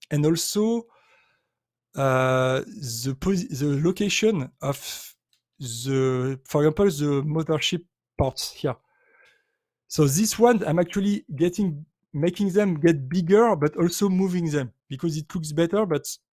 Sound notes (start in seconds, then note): none